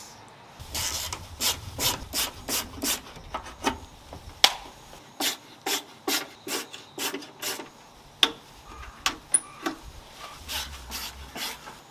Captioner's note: working sound